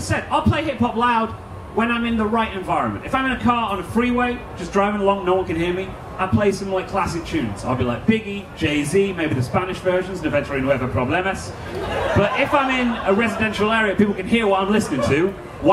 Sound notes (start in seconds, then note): 10.4 foreign language; 11.6 audience laughing